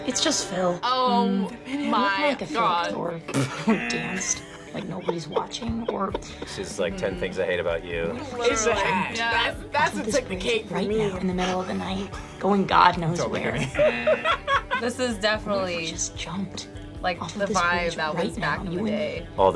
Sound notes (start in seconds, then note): 3.2 laughs; 3.6 buzzer rings; 11.3 gasps; 13.2 laughs; 13.8 buzzer rings